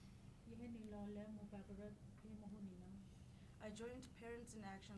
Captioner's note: speaking in foreign language